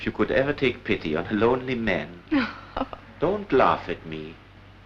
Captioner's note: laughs